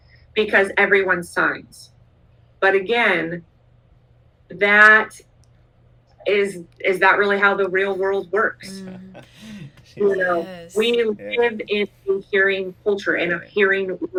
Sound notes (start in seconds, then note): 8.6 laughter